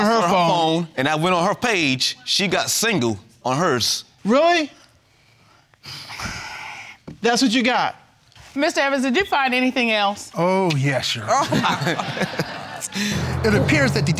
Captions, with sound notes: Because you saw it on her phone? And I went on her page, she got "Single" on hers. Really? (SIGHS) That's what you got? Mr. Evans, did you find anything else? Oh, yes, Your Honor.